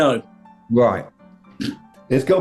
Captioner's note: sniggering